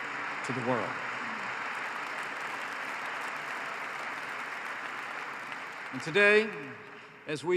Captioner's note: applause